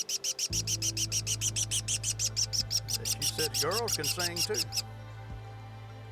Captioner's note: chirping